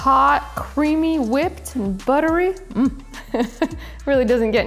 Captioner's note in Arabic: يضحك